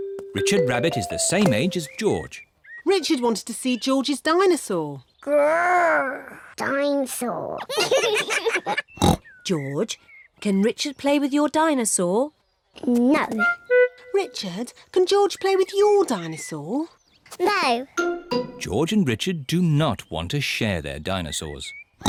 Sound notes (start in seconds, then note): 5.1 roars; 7.6 both laugh